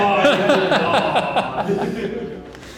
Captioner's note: laughter